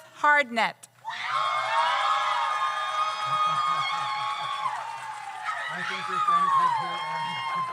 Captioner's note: audience cheers; audience applauds